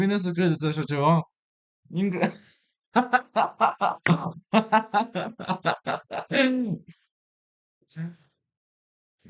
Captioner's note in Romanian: Râsete